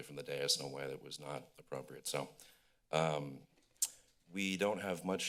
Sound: tsk

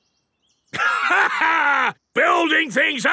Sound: laughs

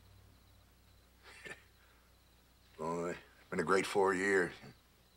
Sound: chuckles

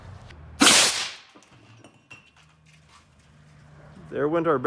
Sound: shoots air cannon

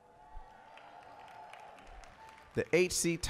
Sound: applause, cheering

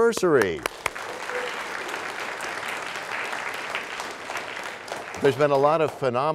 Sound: applause

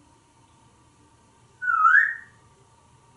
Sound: whistling

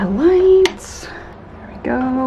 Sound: switch clicks

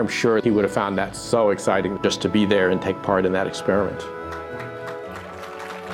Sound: applause

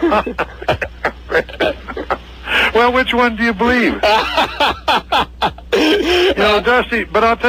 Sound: laughs

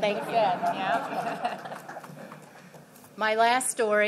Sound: laughter

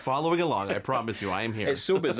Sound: chuckling

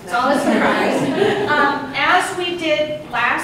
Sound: audience laughs

